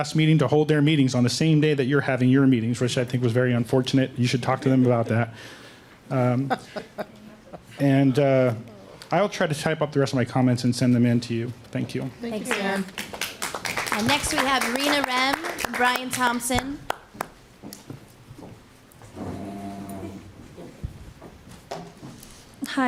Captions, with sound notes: HOLD THEIR MEETINGS ON THE SAME DAY YOU'RE HAVING YOUR MEETINGS WHICH IS VERY UNFORTUNATE. YOU SHOULD TALK TO THEM ABOUT THAT. [LAUGHTER] I WILL TRY TO TYPE UP THE REST OF MY COMMENTS AND SENDS THEM IN TO YOU. THANK YOU. [APPLAUSE] >> NEXT RENA REM, BRIAN THOMPSON. >> I'M RENA.